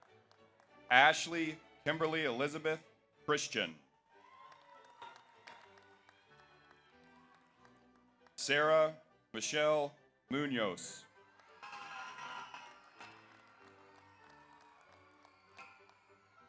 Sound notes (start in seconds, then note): 4.1 audience applauds; 4.1 audience cheers; 11.1 audience applauds; 11.4 audience cheers